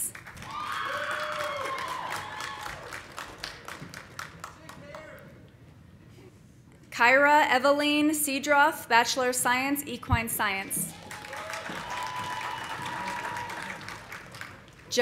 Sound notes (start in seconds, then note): 0.1 audience applauding; 0.4 audience cheering; 4.4 woman shouting; 10.9 audience cheering; 10.9 audience applauding